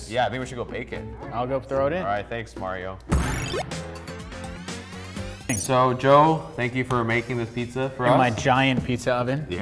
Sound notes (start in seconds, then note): 3.0 electronic music; 3.2 beep